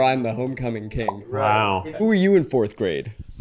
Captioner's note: crown popping